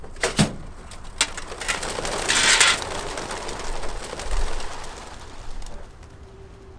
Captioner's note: metal clanking; wings rustling